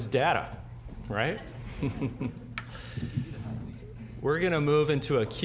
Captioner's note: audience chuckling